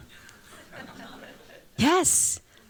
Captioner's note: chuckling